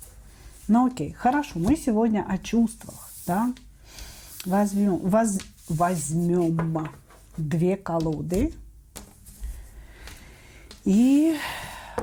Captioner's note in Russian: вздыхает